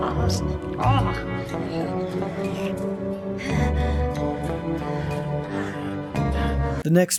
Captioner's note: weird doll sex noises